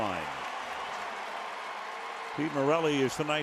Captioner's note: cheering